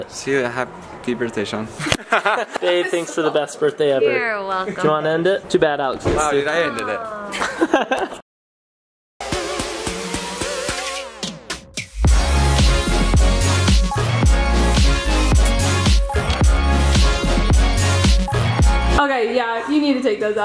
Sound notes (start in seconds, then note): 1.9 laughs; 9.4 upbeat music